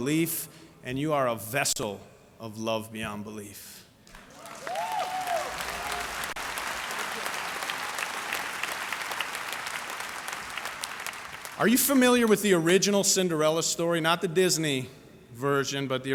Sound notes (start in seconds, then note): 0.2 applause; 5.5 applause